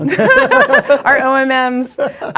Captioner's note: both laughing